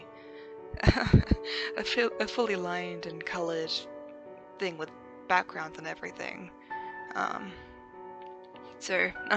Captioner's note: laughs